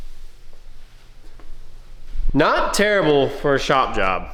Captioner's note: footsteps